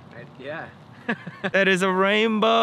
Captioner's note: chuckles